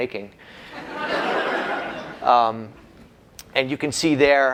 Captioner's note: laughter